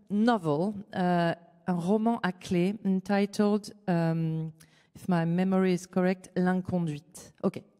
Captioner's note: french